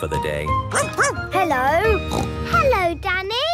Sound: barking; snorting

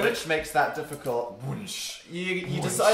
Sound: lighsaber sounds

